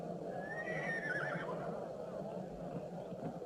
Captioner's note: horse whinnying